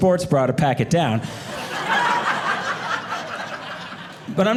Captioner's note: audience laughing